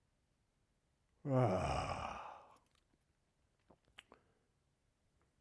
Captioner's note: growling